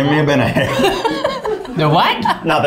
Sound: laughing

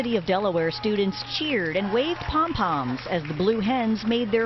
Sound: cheers and applause

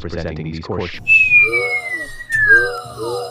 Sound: lights powerdown; crowd gasps

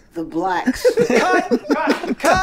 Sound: all laughing

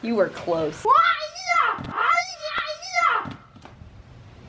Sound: screaming

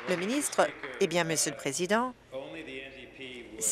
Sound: applause

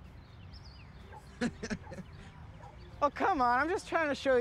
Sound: laughs

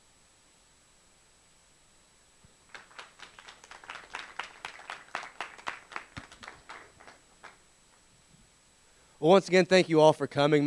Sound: applause

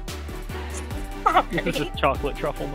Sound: still laughing

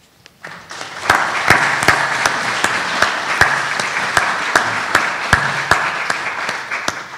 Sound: applause

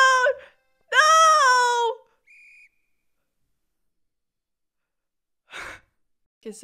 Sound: a tragic silence

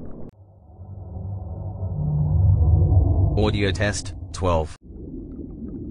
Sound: eerie ethereal transitional SFX

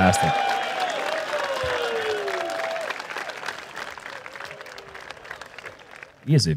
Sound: applause

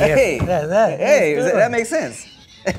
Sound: laughs

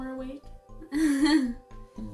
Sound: laughs

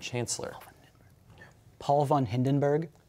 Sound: whispering

